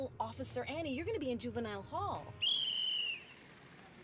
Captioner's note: whistle blows